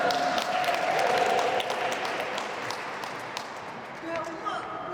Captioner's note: applause